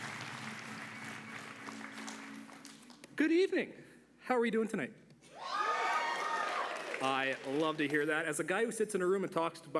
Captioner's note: applause